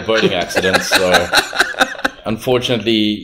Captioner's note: laughs